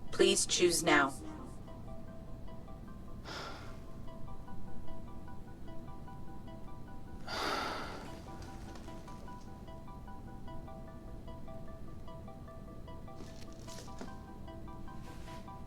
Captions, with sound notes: Please choose now. (suspenseful music) (Derek sighing) (suspenseful music continues) (clothes rustling)